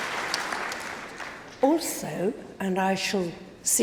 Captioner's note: applause